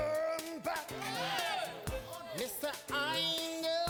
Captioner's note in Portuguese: men yelling